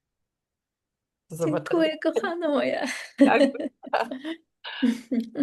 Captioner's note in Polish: śmiech